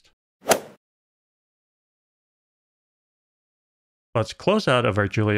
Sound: golf ball hit sound

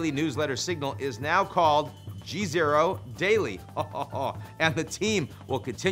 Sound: laughing

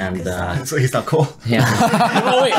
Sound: laughing

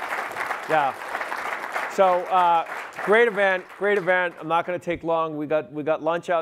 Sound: audience applauding

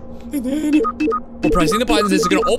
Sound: electronic beeping

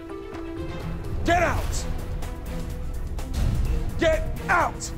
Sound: shouting

